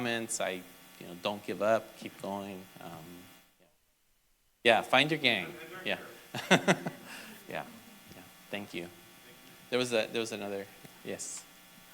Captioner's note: laughter